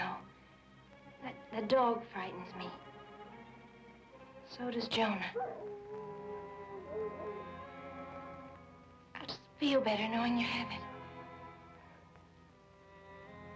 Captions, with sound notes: - I don't know. But the dog frightens me. So does Jonah. (dog howling) I'll just feel better knowing you have it.